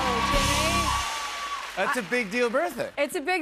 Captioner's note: cheers and applause